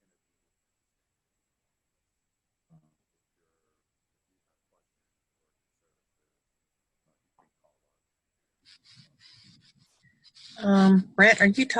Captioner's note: silence